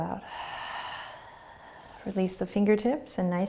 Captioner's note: exhaling